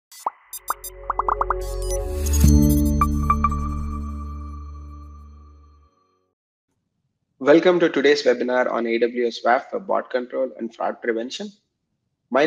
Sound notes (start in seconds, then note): 0.1 graphics popping; 0.1 graphics beeping; 2.4 bright music; 2.4 logo chiming